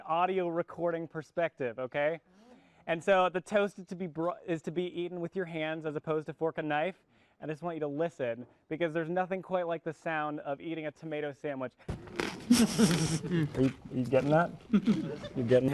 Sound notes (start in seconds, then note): 12.0 crunching